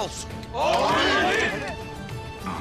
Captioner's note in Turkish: Hep bir ağızdan